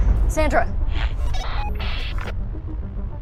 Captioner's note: radio bleep